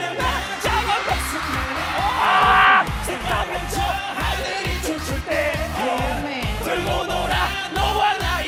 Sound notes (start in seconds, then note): 0.7 screaming; 3.3 singing along